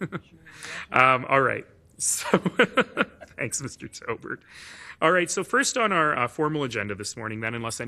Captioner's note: laughing